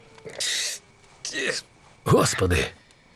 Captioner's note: wincing